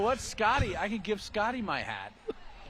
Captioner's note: laughter